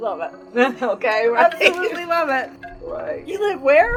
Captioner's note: laughter